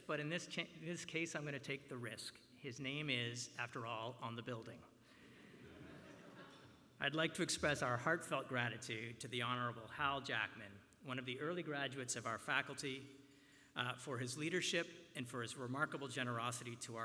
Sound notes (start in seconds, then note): 5.4 laughter